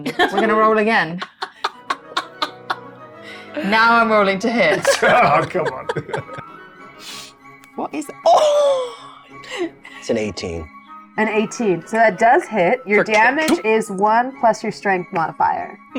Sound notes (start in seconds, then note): 1.8 laughs